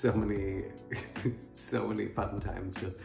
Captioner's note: laughs